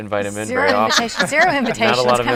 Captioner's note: laughing